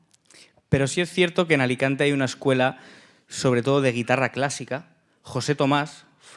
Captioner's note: speaking in Spanish